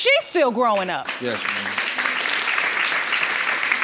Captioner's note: audience applauds